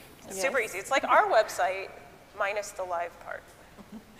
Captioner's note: laughs